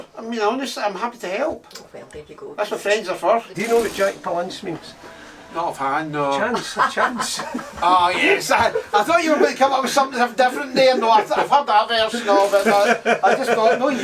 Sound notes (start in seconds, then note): 6.5 Janice laughs